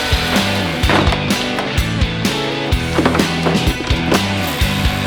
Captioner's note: bricks tumbling loudly